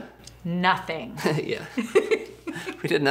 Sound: laughing; laughs

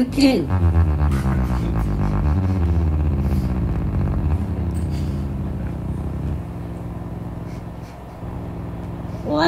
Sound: beats double exponentially, until a solid tone is heard

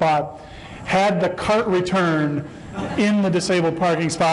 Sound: laughter

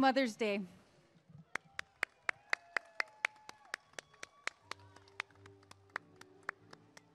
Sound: applause and cheering

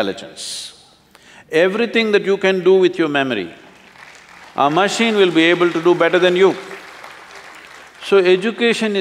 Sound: applause

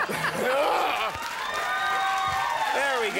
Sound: audience cheering

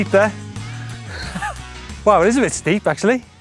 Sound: laughs

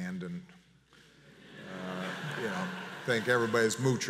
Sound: audience laughs

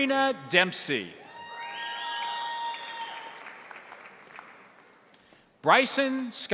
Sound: crowd cheering; crowd applauding

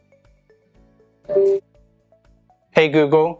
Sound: electronic alert sound

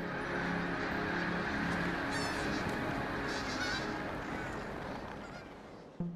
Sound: squawking

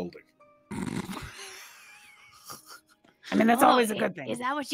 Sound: all laugh

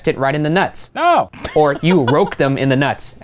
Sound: laughing

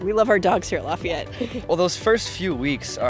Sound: chuckles

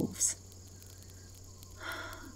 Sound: her voice grows soft, wistful, as she continues

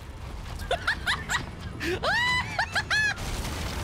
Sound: howling Laughter

